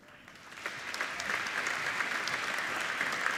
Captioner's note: applauding